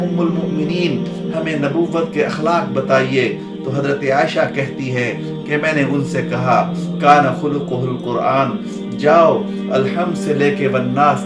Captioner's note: Arabic